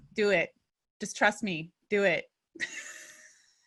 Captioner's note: laugh